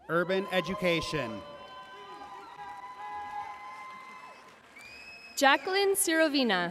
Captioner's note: audience cheering and applauding